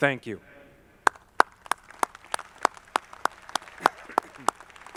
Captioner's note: audience clapping